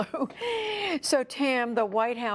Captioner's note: laughter